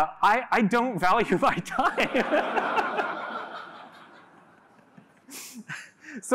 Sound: laughter

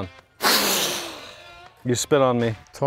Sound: blowing

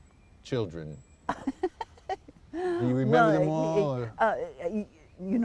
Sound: laughter

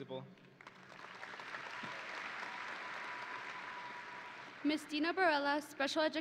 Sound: audience and graduates applauding

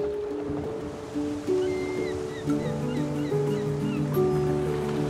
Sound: gulls singing

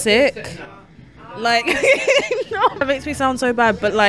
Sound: laughs

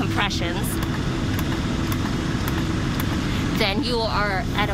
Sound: chest cage clicking

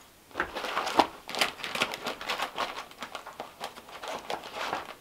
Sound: plastic rustling

